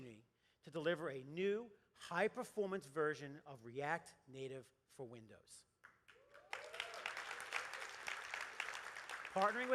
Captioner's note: applause